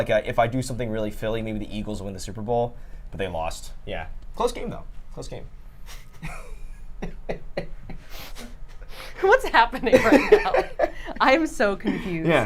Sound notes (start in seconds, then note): 5.9 laughs